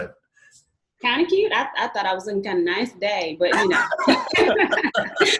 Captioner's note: all laugh